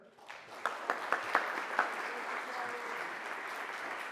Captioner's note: audience applauds